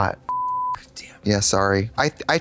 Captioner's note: beep